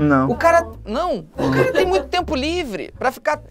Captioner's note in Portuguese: risadas